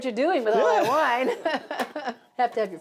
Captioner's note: laughs